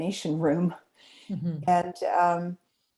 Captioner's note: chuckles